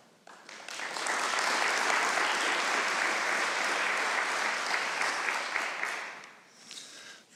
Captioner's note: applause